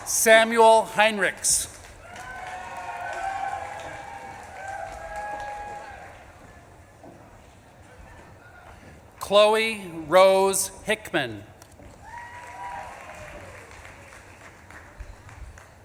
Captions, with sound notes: Samuel Heinrichs. (audience claps and cheers) Chloe Rose Hickman. (audience claps and cheers)